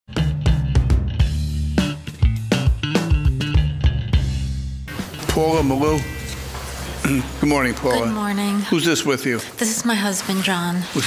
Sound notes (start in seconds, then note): 0.0 upbeat music; 4.8 swooshing